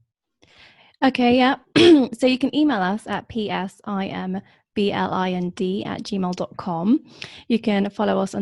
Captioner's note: clears throat